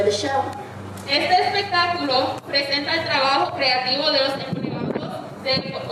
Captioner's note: speaking in foreign language